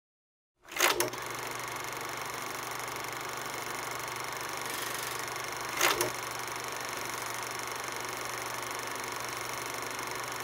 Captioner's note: sound of movie reel running